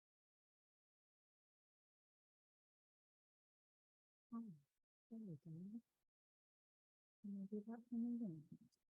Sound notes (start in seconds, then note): 4.5 murmuring